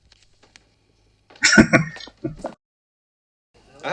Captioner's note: chuckling